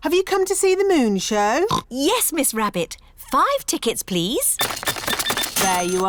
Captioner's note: oinks